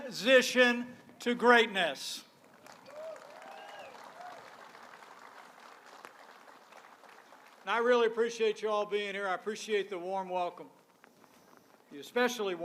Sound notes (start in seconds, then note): 2.4 applause